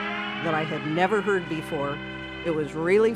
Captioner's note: alarm blaring